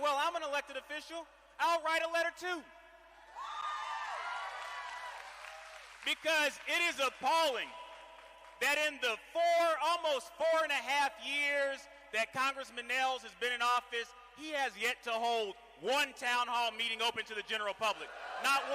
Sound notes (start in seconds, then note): 5.8 cheering